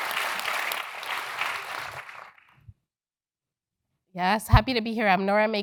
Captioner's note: applause